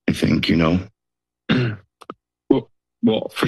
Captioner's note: coughs